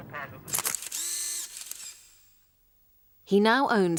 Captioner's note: camera clicks